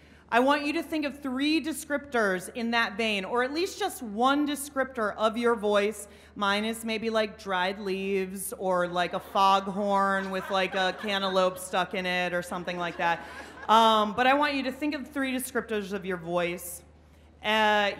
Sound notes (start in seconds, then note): 12.8 laughing